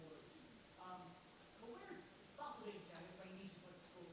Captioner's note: speaking faintly